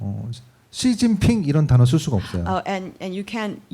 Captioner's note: speaking korean